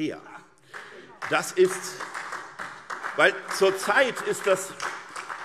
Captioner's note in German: Beifall SPD, vereinzelt BÜNDNIS 90/DIE GRÜNEN und DIE LINKE